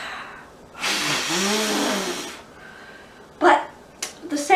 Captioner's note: blows air forcefully